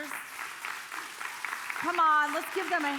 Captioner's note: congregation applauding